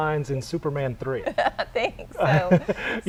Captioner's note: laughter